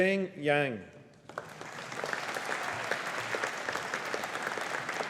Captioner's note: audience applauding